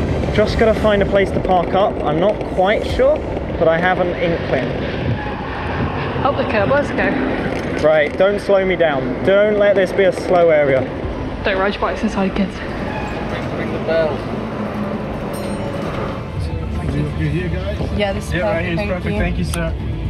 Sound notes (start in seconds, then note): 15.2 bell dings